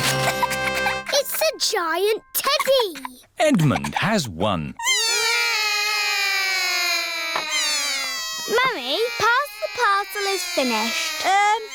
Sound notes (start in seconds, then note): 5.1 all cry